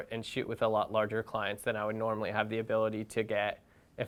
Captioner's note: none